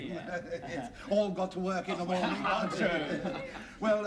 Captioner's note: all chuckle